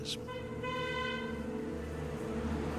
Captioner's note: car beeps